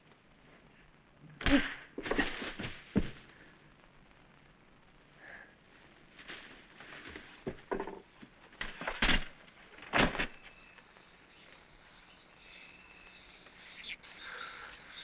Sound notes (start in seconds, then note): 2.0 thud; 10.2 birds chirping